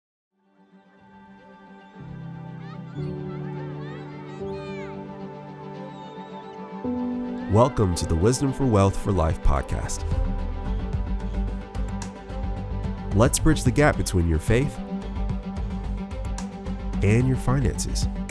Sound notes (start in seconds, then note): 0.5 children chattering; 0.5 inspiring music; 10.0 inspiring music